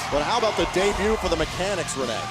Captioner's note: bell ringing